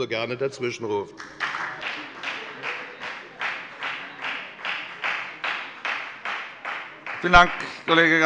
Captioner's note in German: Beifall bei der FDP